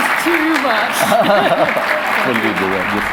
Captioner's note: both chuckle